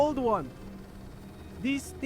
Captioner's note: projector whirs